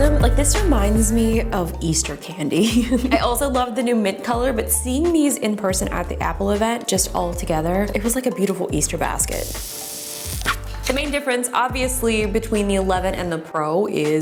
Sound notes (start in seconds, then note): 9.4 tearing